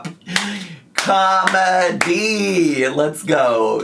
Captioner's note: claps